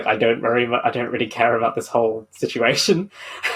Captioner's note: laughing